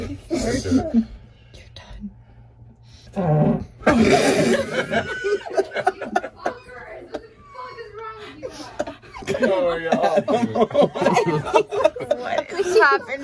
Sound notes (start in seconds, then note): 3.9 loud laughter; 10.4 boisterous laughter